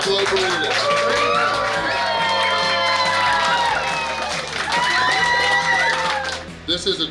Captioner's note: cheering & Clapping